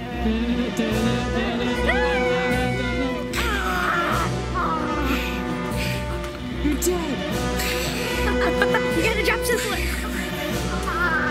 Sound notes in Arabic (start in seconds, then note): 7.6 يضحك